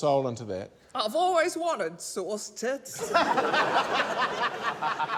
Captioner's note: laughter